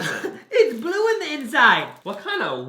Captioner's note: gasps